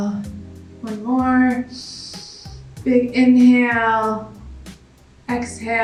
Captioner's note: exhales; inhales